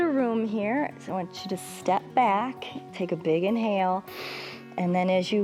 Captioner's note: inhales